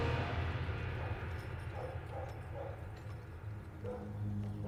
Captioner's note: dog barking